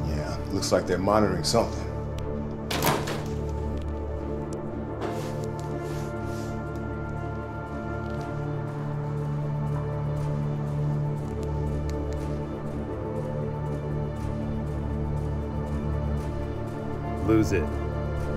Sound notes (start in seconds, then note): 2.6 door opening